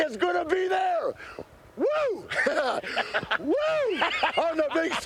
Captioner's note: Curt laughs; laughs